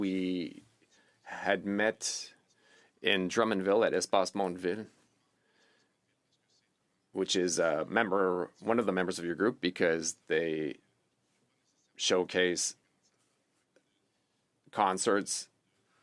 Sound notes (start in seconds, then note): 9.9 speaking French